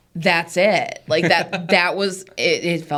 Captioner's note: laughs